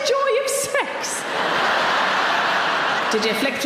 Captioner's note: audience laughing